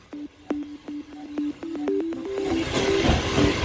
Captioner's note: and Steam Train noises